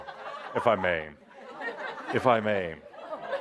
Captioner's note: laughter